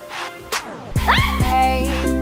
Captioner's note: squeals